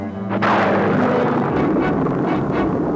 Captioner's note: thunder roars